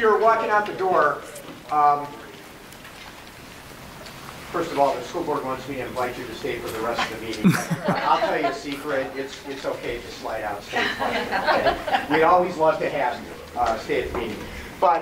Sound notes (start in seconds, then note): 10.7 audience laughs